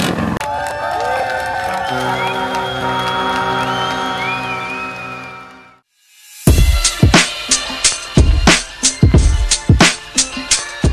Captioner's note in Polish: Aplauz